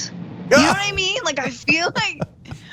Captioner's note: laugh